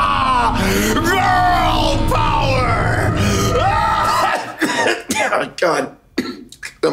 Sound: coughs

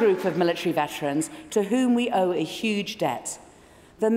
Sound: applause

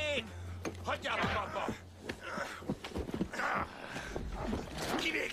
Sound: both grunting

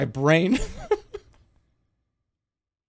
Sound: laughs

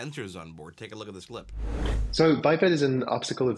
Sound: air whooshing

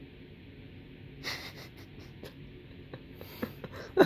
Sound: chuckles

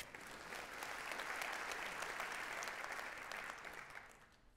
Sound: audience clapping

